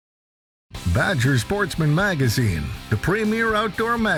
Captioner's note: voiceover